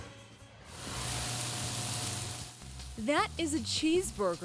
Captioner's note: meat sizzles